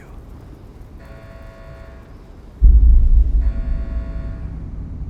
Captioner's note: alarm blaring